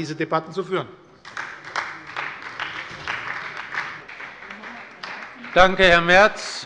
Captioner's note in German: Beifall bei Abgeordneten der SPD